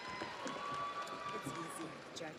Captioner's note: audience cheers; audience applauds